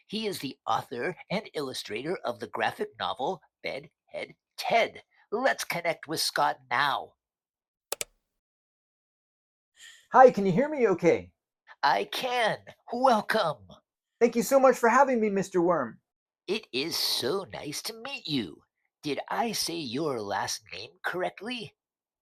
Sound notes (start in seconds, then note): 7.9 mouse clicks